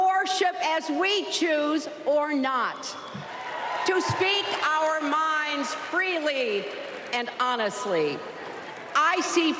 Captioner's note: applause